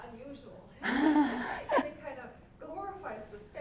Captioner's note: laughing drowns out speaker